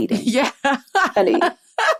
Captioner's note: laughs